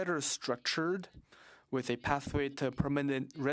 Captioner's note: speaking French